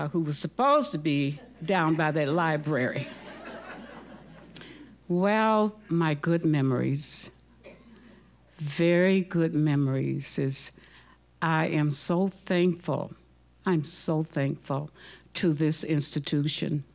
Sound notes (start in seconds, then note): 2.7 audience laughing